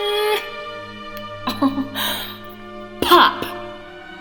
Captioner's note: woman laughs